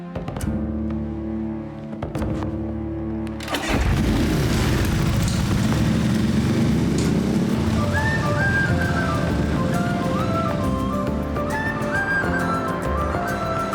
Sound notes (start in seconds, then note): 0.8 dramatic music; 3.4 engine starting; 7.6 upbeat Scottish music